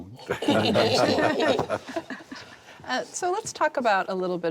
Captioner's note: laughter